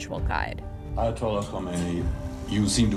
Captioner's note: soundbite of archived recording